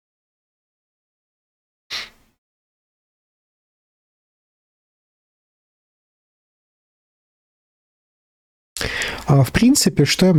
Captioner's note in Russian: фыркает